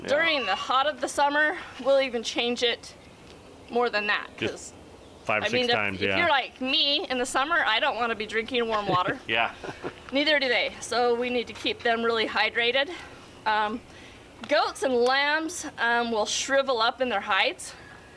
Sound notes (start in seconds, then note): 8.6 chuckles